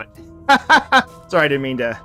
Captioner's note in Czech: smích